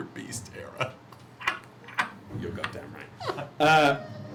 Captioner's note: laughing; laughs